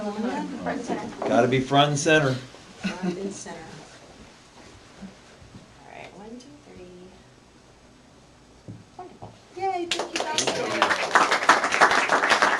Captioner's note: applause